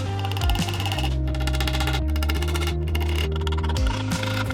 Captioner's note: drill whirring